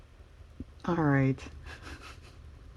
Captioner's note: laughs